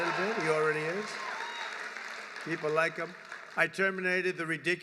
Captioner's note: applause